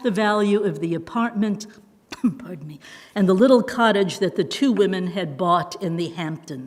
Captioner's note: coughs